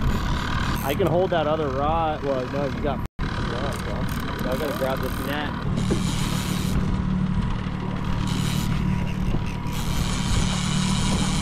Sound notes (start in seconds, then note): 6.5 reels clicking